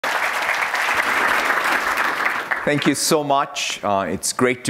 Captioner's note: applause